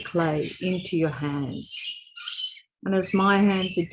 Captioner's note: bird chirping